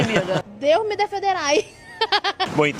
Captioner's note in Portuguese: risos